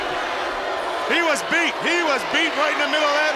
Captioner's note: crowd chatter